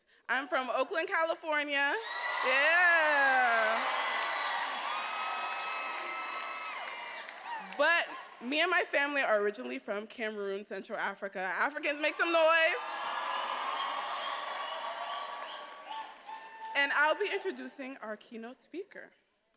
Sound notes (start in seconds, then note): 3.6 attendees applauding and cheering; 12.6 attendees applauding and cheering